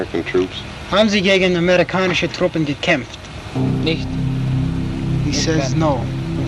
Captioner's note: translator and soldier speaking German